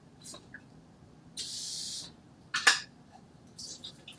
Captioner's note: water running; liquid splashing